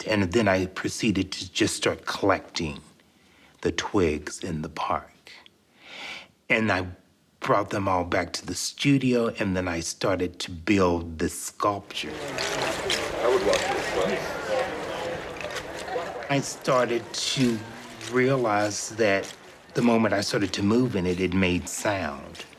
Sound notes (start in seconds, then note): 12.8 indistinct conversations